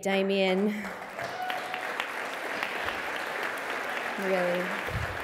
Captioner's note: applause